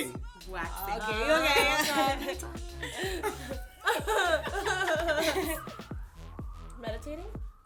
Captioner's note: laughter